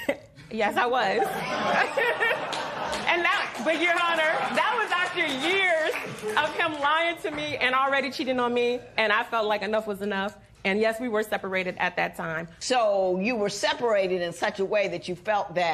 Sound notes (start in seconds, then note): 0.9 chuckle; 1.1 laughter